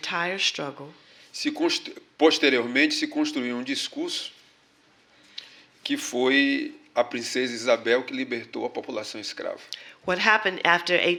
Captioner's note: speaking portuguese